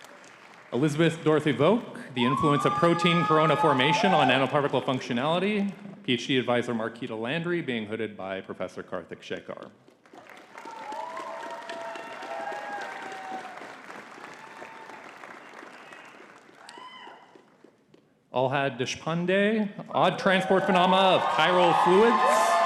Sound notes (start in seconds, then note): 10.0 audience cheering and clapping